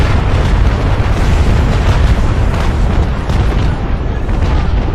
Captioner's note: explosions booming